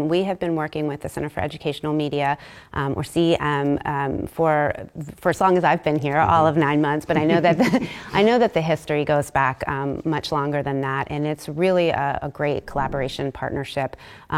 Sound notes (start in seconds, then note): 7.2 laugh